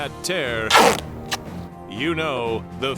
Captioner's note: tape being unwound; tape being torn